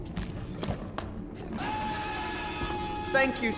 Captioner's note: loud scream